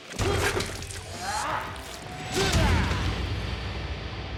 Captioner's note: grunting